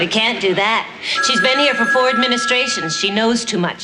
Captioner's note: phone ringing